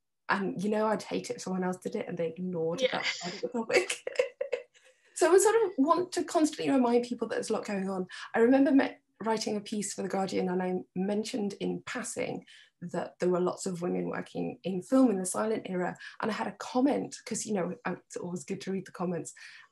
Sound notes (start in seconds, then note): 3.8 she chuckles